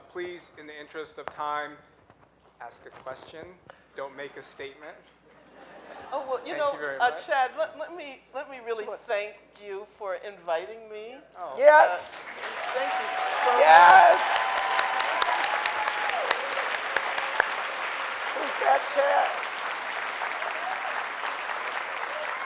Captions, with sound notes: please, in the interest of time ask a question don't make a statement. - You know, Chad, let me really thank you for inviting me - Yes! (audience cheering)